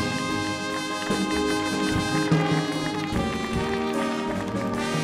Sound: audience applauding

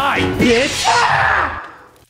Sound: screaming in pain

